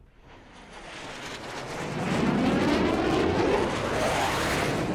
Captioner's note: aircraft whooshing